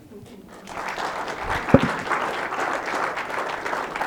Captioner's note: clapping